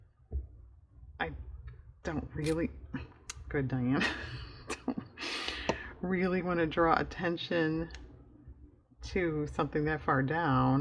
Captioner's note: laughs